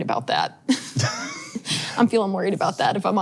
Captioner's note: laughs